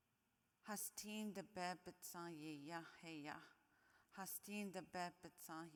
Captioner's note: speaking in foreign language